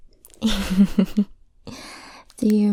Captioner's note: giggles